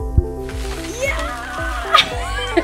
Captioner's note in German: Lachen